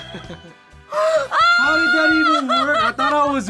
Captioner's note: screams; laughs